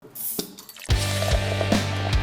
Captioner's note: beer bottle cap opening and pouring in glass; rock music